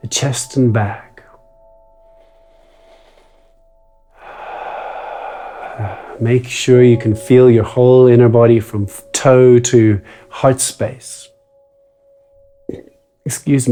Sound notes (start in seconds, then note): 2.5 inhales; 4.1 exhales; 12.6 burps